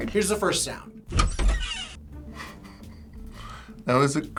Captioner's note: door creaking; chuckles